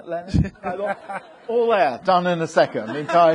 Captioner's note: audience laughing